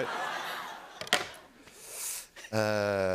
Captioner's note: inhales sharply